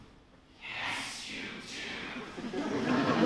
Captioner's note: whispers